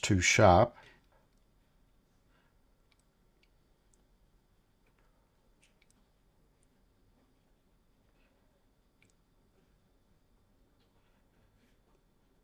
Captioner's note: silence